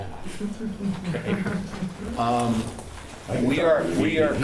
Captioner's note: laughs